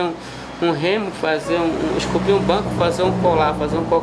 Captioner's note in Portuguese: veículo passando na rua